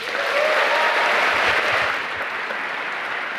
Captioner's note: applause